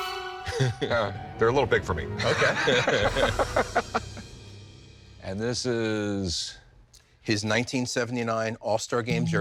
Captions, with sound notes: -[laughs] -They're a little big for me. -Okay. -[both laugh] And this is... His 1979 All-Star game jersey.